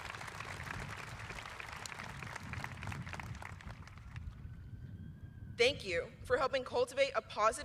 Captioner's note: applause